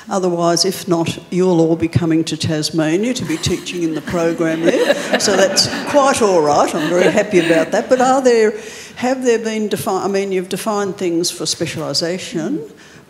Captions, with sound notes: otherwise, if not, you'll all be coming to Tasmania to be teaching in the programme there. (panellists laughing) And so that's quite all right. I'm very happy about that. But are there, have there been, I mean, you've defined things for specialisation.